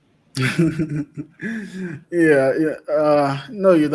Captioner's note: laughs